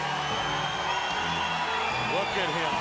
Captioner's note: crowd cheering